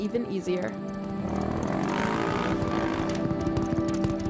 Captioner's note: car engine revs